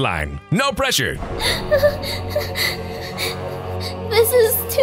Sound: panicked breaths

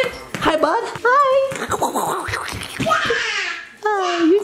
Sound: spitting

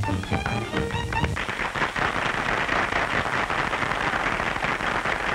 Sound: applause

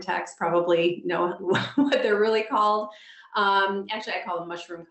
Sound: laughs

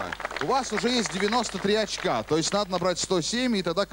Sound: applause

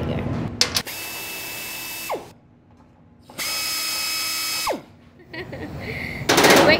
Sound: drilling sound

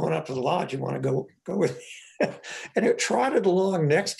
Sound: laughs

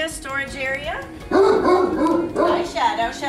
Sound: dog barking

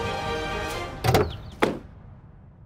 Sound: car door opens and closes

